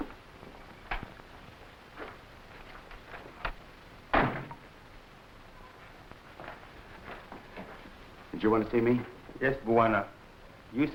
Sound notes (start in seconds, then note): 4.1 door slamming; 6.3 footsteps echoing